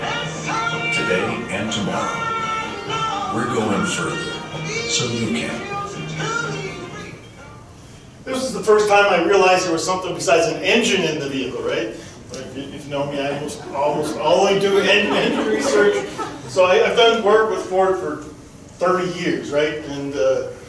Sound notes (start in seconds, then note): 13.4 crowd chuckling